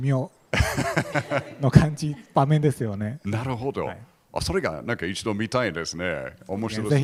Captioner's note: laugh